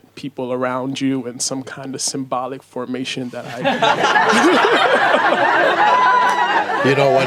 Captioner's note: laughter